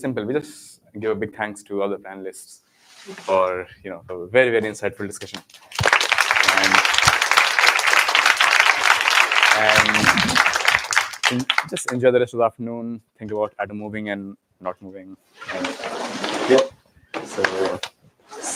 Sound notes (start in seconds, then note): 5.4 applause